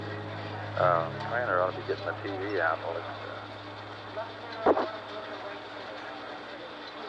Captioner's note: people talking in background